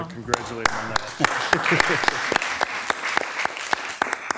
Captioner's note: all clapping